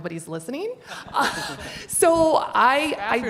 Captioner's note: participants chuckling